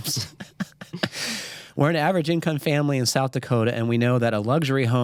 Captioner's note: chuckles